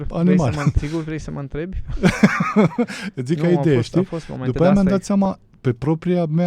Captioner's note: laughter